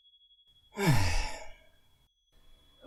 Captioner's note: sigh